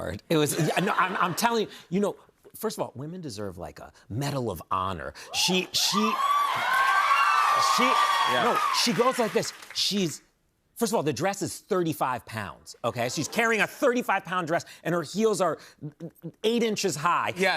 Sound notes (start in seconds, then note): 5.3 cheers and applause